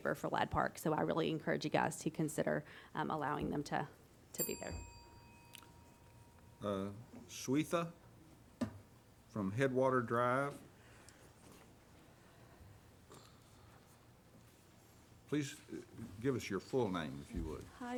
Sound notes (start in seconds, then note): 4.3 bell dings